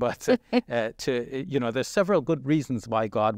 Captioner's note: chuckling